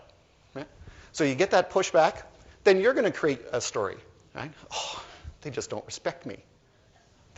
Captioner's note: exasperated sigh